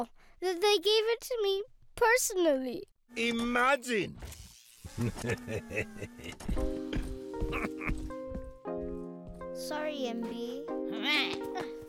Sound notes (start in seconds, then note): 4.9 laughing; 6.4 sad music